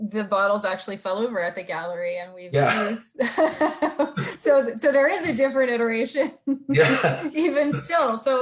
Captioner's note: both laughing; laughing